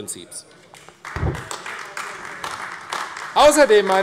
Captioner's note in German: Beifall AfD